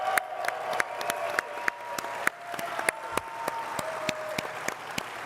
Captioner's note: all clapping and cheering